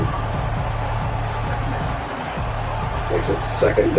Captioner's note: crowd Noises